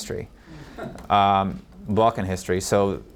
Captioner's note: audience member laughs